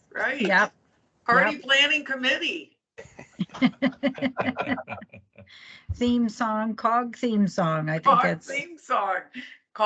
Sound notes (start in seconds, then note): 3.0 people chuckling